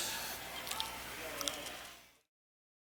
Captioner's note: muffled cheering